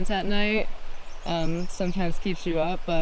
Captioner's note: water ripples; birds singing